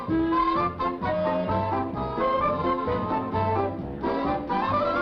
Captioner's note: whispering